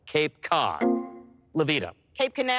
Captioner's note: electric chime